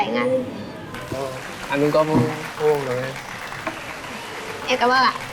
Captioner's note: applause